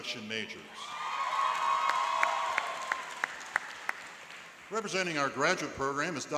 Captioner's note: cheering and applauding